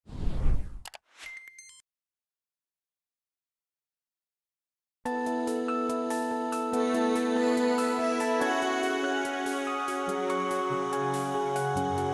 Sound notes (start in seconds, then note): 0.0 whooshing; 0.8 mouse clicking; 0.8 electronic chiming; 5.1 relaxing music